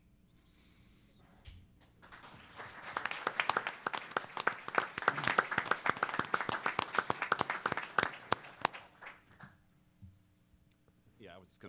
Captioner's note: applause